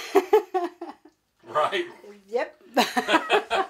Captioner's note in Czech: Smích